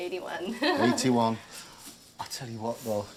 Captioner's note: chuckles